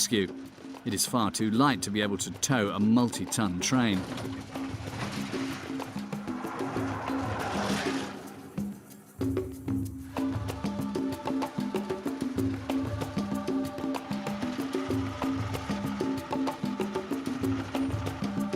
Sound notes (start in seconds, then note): 4.2 device tires sound; 8.5 calm drum music